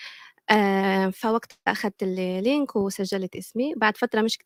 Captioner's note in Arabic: لغة أجنبية